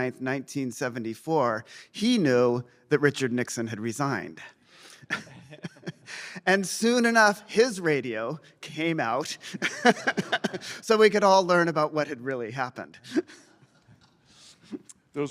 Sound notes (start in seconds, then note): 4.5 laughs